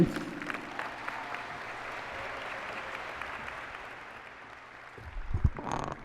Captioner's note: applause and cheering